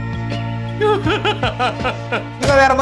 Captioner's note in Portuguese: narrador chorando